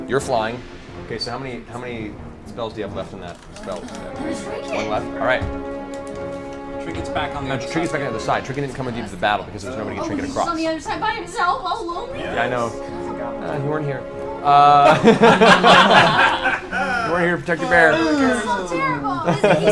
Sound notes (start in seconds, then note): 14.8 all laugh